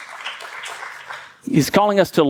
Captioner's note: congregation applauding